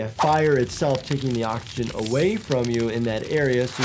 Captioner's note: fire crackles